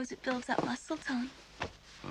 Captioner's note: thud